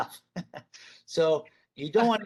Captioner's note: chuckles